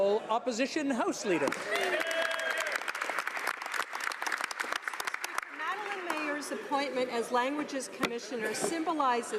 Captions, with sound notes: QUESTIONS. (Speaking French). THE HONOURABLE OPPOSITION HOUSE LEADER. [ Some Applause ]